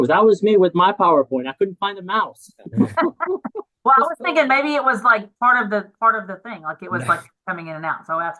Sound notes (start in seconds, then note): 2.6 laughs; 2.6 laughing